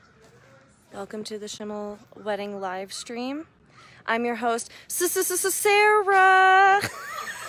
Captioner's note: laughter